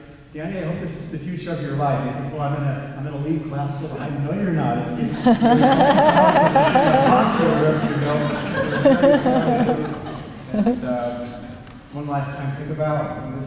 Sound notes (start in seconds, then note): 5.0 laughter